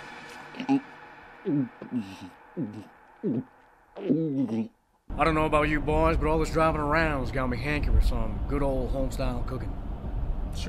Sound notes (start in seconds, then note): 0.8 chief swallowing